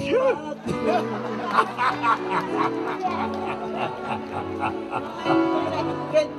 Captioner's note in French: Rires